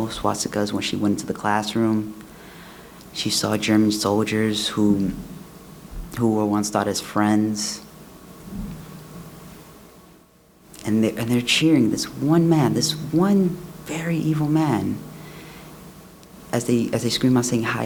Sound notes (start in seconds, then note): none